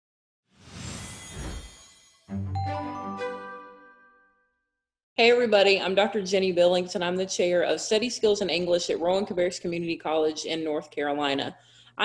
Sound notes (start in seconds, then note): 0.6 whooshing sound; 2.2 bright music